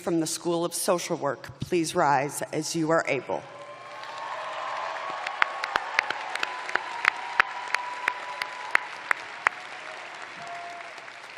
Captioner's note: cheers and applause